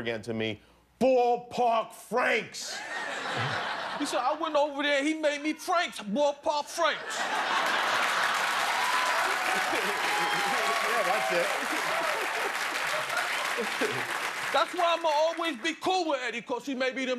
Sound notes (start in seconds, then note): 2.7 laughter; 6.9 laughter; 7.4 applause